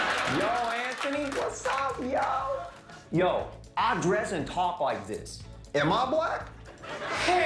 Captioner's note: laughter